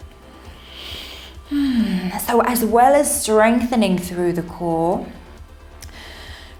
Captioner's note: sighs